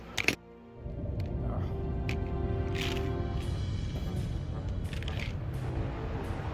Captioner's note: ominous sand noises